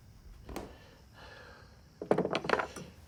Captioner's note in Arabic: تنهدات جيم